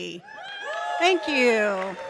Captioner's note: audience cheers and claps